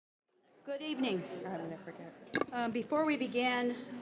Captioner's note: overlapping chattering